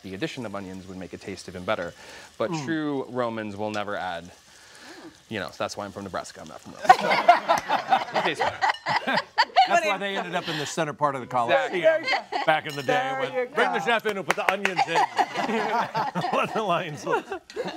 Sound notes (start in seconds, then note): 6.8 laughter